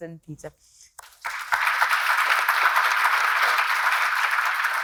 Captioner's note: attendees clapping